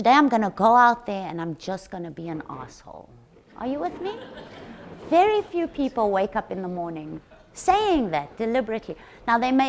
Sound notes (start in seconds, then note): 3.8 audience chuckles